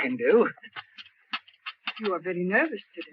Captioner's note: cup rattles